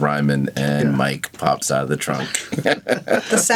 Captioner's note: laughs